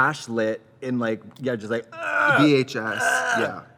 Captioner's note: exclaims